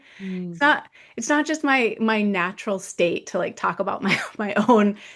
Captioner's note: laughs